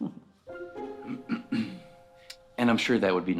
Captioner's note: clears throat